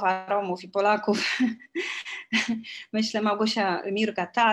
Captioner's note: śmiech